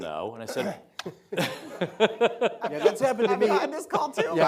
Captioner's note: Secretary Azar laughing